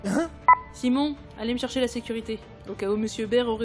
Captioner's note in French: Bip interphone